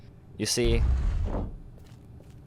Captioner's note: door opens